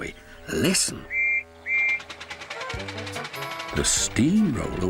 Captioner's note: whistles